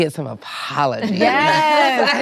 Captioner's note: laughter